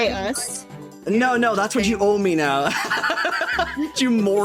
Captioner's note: laughing